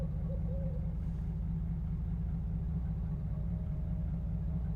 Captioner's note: owl hoots